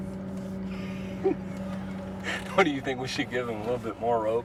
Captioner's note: laughing